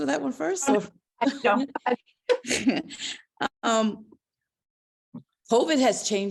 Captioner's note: laughter